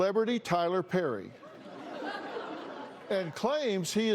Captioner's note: laughter